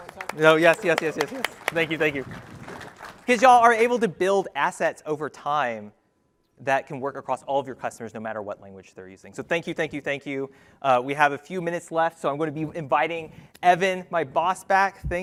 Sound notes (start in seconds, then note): 0.0 applause